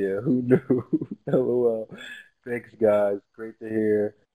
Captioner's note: laugh